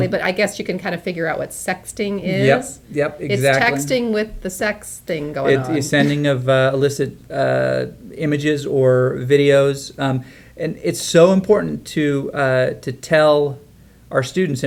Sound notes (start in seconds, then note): 5.4 laughs